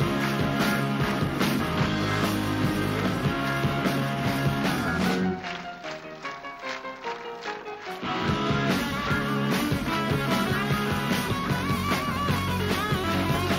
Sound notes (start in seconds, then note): 5.5 crowd clapping; 5.5 upbeat piano music; 8.5 upbeat guitar rock music; 8.5 upbeat rock music